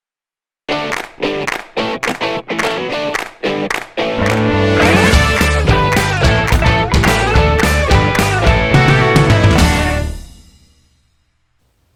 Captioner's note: claps